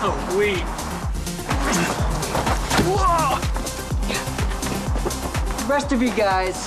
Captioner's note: gang member grunting